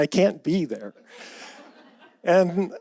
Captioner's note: audience laughs